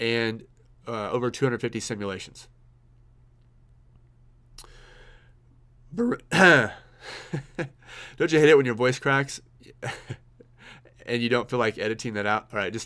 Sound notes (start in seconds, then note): 6.1 voice cracking; 6.3 clears throat and laughs